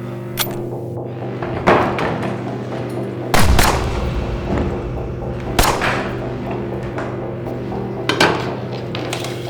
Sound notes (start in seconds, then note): 3.3 gunshots boom; 3.4 suspenseful music